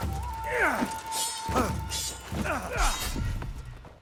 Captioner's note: characters shouting